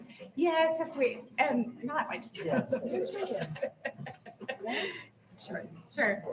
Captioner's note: chuckling